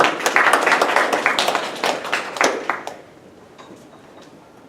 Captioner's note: applause